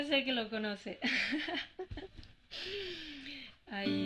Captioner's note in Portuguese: risos